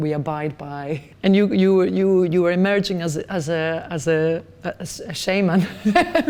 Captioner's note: laughs